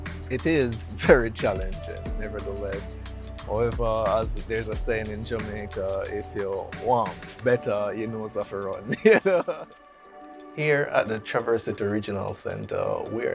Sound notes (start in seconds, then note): 8.9 laughs